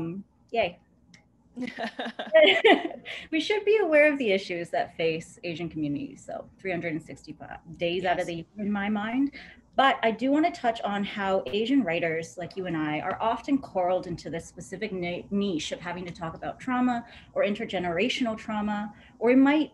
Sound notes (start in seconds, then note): 1.6 laughter